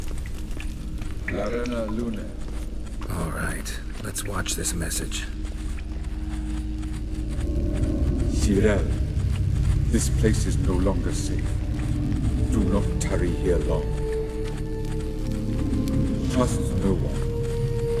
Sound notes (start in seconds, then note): none